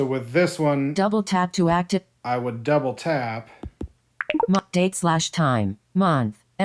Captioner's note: beep